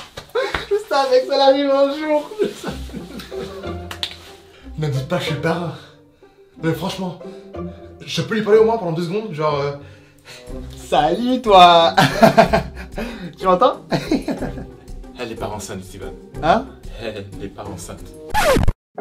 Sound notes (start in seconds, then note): 2.4 crying with joy; 11.9 laughs; 18.7 sad music